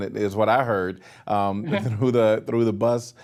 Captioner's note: laughing